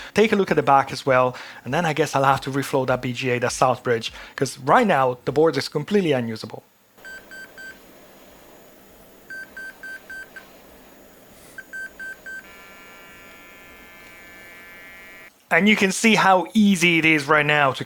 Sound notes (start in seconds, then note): 8.5 beeping